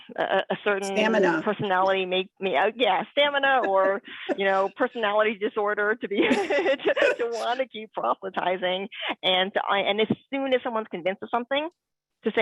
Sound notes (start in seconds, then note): 6.2 laughs